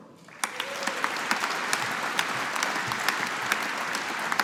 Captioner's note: audience applauding